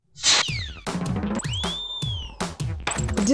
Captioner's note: slide whistle